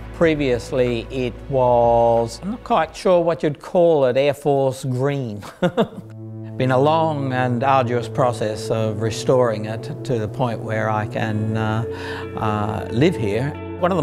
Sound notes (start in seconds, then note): 5.4 laughs